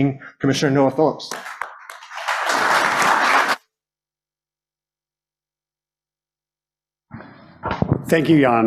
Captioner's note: applause